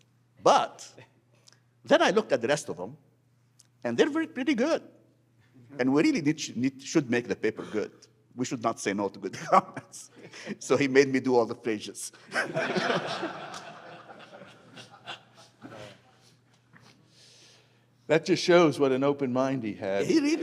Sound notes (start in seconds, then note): 12.2 laughter